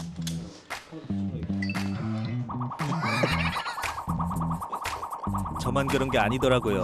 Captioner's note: ㅋㅋㅋㅋㅋㅋㅋㅋㅋㅋ